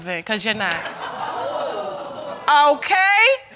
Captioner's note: audience laughs